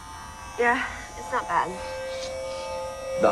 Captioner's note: voiceover